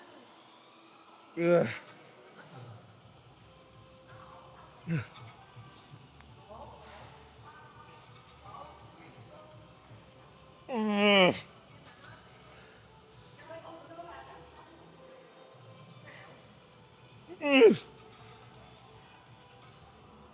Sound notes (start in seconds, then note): 0.8 man speaking in a foreign language; 1.4 man groans; 17.3 man groans